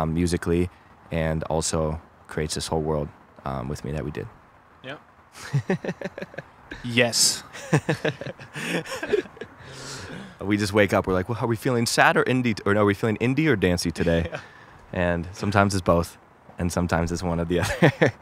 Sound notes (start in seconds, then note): 5.3 laughs; 7.2 both laugh; 17.6 laughs